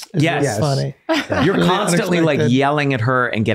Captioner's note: laughing